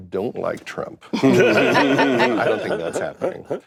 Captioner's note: laughter